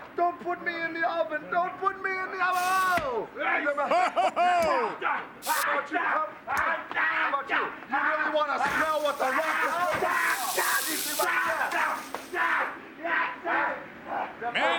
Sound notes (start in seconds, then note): 3.8 Vince laughs; 4.4 Mankind yelling; 5.4 hand sizzling; 8.6 Mankind yelling; 8.6 hand sizzling